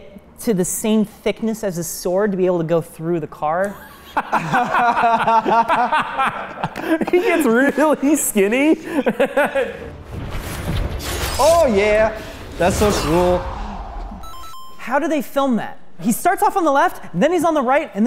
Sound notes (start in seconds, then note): 4.3 laughing; 12.7 Mario pause sound effect